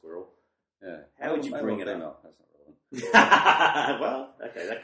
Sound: both laugh

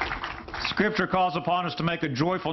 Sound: applause

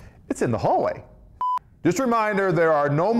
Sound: beep

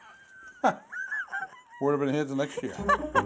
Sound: laughter

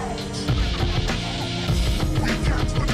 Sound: laughing heroically

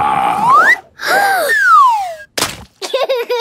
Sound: gasps; laughing

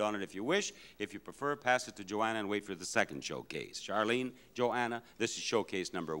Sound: none

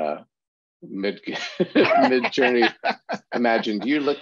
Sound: laughter

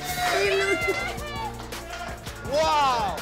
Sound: cheering

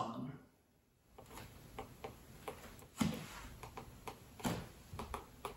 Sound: chopstick tapping

